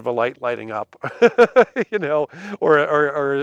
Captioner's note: laughs